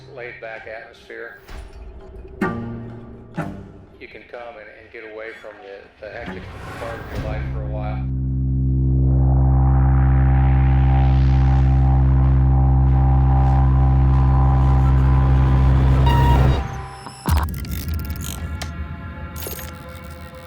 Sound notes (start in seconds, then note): 1.4 tense music; 8.3 tense music; 16.2 computer bleeping